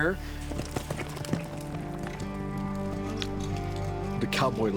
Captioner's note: hoofs clomping